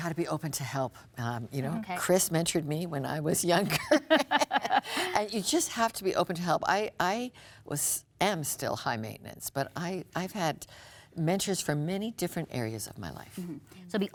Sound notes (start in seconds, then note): 3.8 laughs